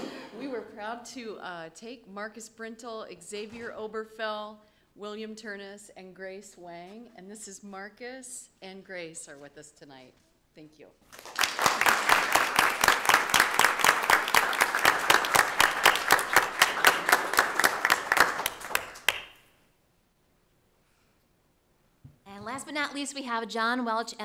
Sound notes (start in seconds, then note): 11.1 audience applauding